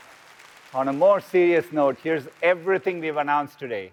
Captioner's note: applause